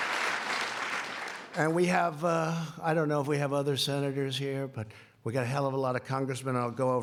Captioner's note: applause